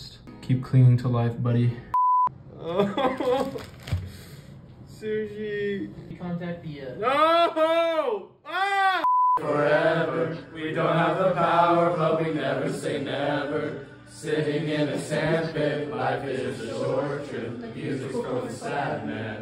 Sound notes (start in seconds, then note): 2.5 sobbing